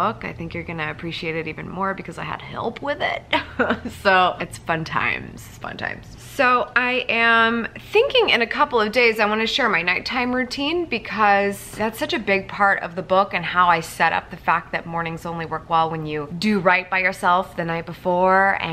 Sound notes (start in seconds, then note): 3.3 laughs